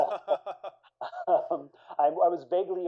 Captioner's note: laughter